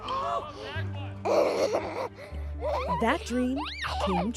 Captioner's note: laughing